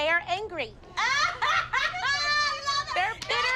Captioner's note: all laughing